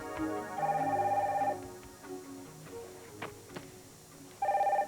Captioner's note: telephone rings